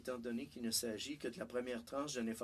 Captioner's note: speaking French